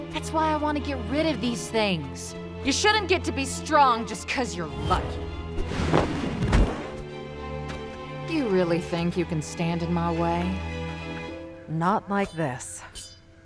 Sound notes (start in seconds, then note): none